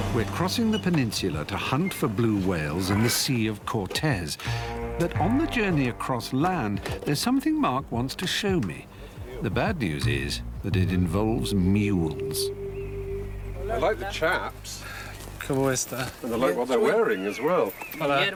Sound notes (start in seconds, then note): 15.6 speaks foreign language